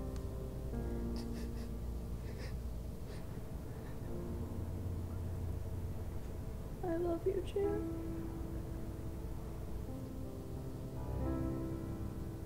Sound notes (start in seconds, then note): 1.1 Jared sobs